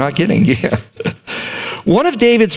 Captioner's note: chuckles